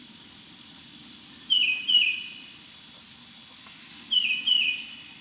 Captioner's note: birds and bugs chirping